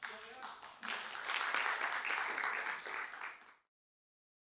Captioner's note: applause